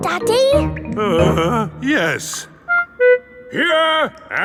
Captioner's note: groans